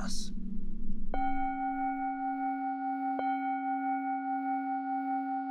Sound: discordant bell chiming

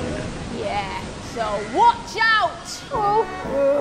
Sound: storm fades away

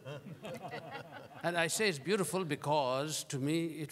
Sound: laughter

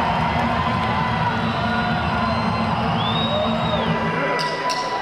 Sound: cheers and whistles

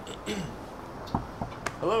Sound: knocking

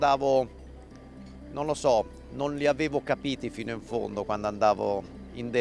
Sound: speaking in foreign language

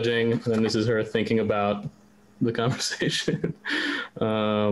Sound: laughs

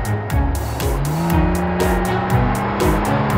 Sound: engine roaring

